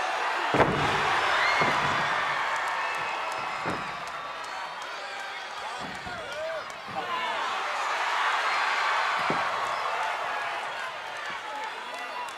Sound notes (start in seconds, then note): 7.9 audience cheering